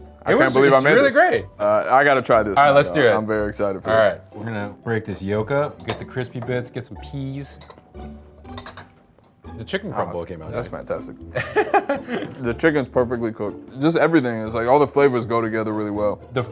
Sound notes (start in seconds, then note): 8.3 utensils clinking; 11.3 laughs